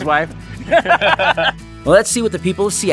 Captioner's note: laughing